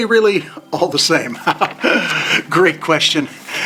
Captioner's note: chuckles